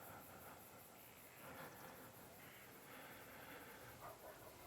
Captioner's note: crickets chirping